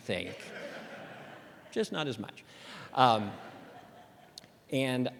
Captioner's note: laughter